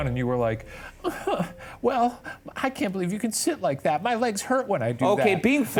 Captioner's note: whines